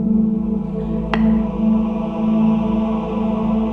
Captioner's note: gavel strikes